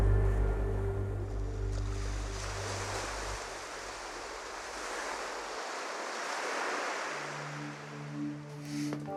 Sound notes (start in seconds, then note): 1.4 waves lapping the shore